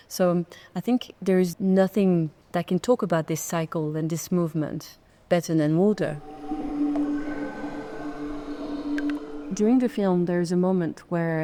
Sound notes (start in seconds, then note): 6.7 pensive music; 6.7 water dripping